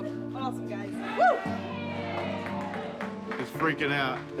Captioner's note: cheering, applause